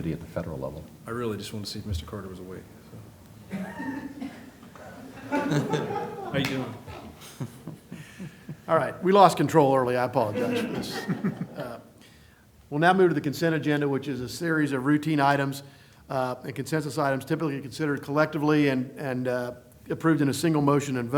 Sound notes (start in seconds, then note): 3.5 laughter